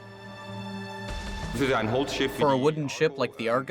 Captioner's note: man speaking German